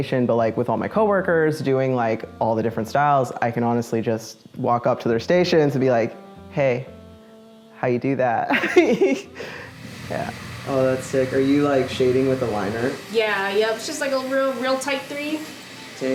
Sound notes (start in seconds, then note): 8.4 laughter